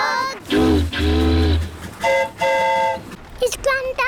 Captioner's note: boat horn honks; train horn toots